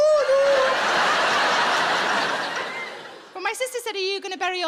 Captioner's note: audience laughing